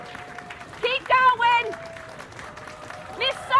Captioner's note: applause